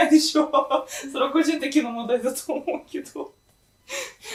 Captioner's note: laughing